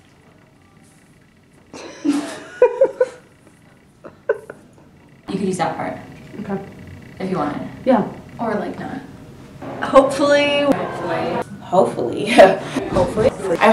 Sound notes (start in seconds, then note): 1.7 laugh